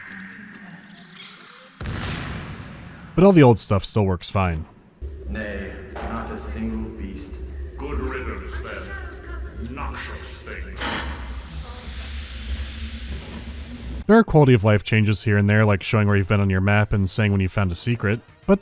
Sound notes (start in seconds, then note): 1.8 boosh; 10.7 puff